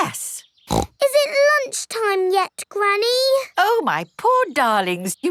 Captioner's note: snorts